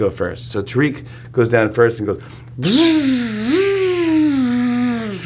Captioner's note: zipping